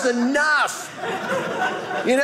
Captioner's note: audience laughing